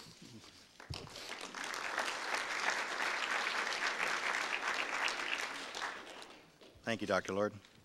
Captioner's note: audience applause